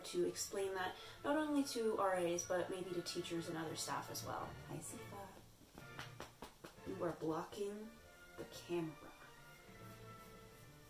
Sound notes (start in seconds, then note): 5.6 patting sounds